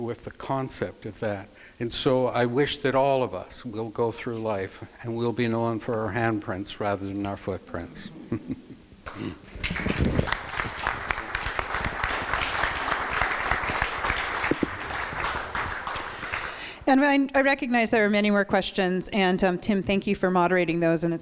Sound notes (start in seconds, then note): 11.1 chuckles; 12.4 crowd applause